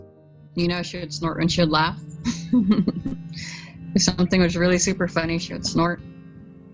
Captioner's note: laughing